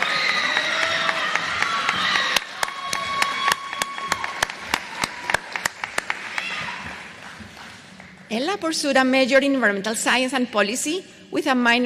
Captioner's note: applause